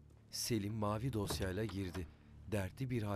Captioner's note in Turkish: Kapı kapanma sesi